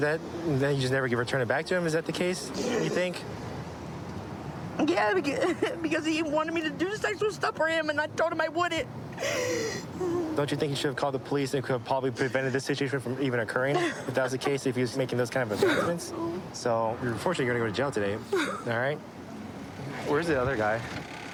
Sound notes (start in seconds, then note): 9.1 sobbing